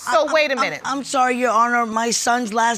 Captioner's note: stutters